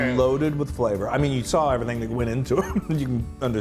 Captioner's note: laugh